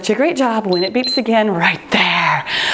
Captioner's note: timer beeps